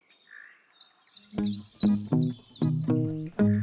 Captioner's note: birds chirping